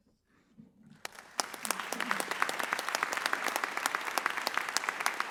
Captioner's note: audience applauds